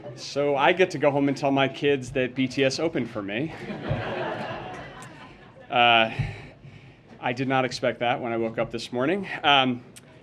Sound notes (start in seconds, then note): 3.5 laughter